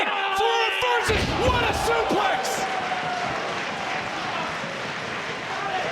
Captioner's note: body thudding